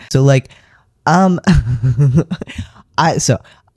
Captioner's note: laughter